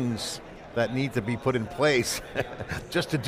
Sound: chuckles

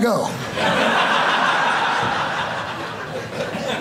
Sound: audience laughing

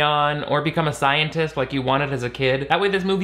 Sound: none

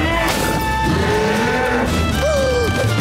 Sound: mooing

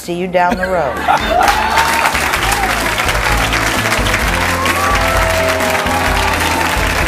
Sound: bright music; audience applauding

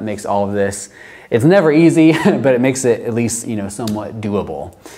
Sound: chuckles

